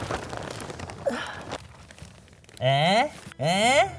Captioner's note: grunting